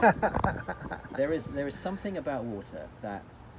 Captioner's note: laughs